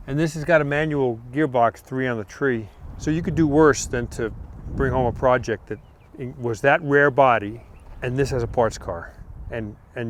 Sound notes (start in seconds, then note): none